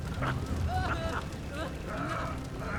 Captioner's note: laughs